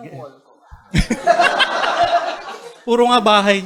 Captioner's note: laughter